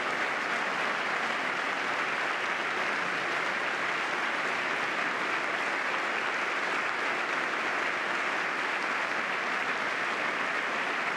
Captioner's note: applause